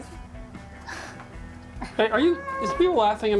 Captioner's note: chuckling